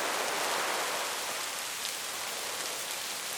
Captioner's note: wind blowing